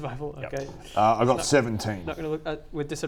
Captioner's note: winces